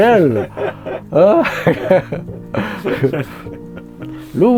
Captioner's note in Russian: смех